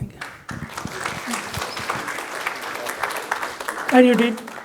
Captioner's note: audience applauding